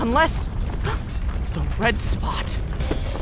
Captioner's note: gasp; gears grind and churn